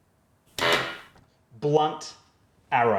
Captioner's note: machine blaring